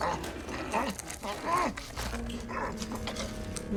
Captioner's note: sound of carnivorous eating